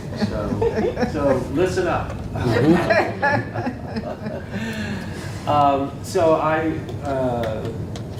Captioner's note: laugh